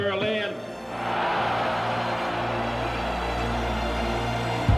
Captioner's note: dramatic music continues; crowd cheering